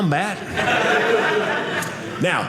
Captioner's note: audience laughing